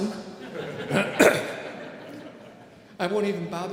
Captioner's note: audience laughing